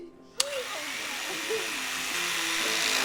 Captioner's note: knife whirring on